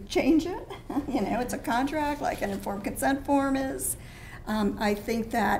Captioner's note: laugh